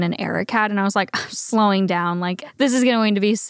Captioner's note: scoffs